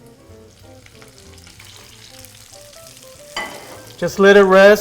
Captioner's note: oil sizzling